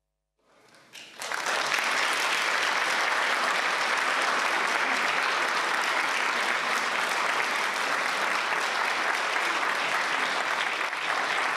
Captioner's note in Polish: oklaski